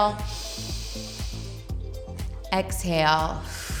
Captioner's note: inhales; exhales